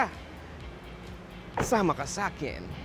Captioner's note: door closes